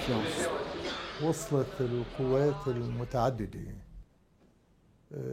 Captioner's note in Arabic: العربية، اللغة المنطوقة